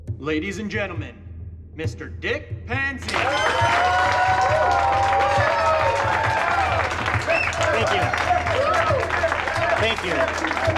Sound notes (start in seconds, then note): 0.0 drums playing slowly; 3.0 cheers